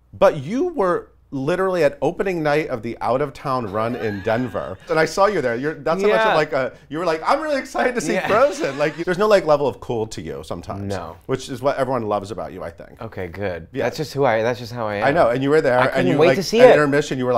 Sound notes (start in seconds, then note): 7.9 laughs